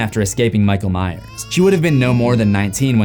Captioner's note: baby crying